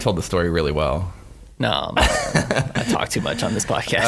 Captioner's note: laughing